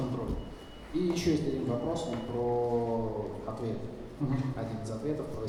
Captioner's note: speaking in foreign language